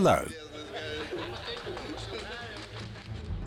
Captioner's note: audience laughs